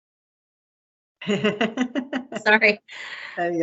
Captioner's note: laughing